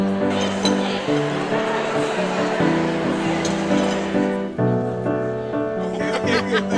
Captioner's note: crowd chatter; laughing